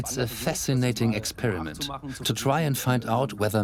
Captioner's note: in German; dubbed in English